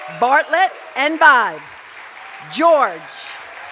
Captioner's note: cheers and applause